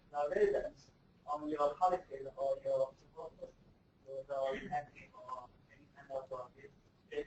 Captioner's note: speaks faintly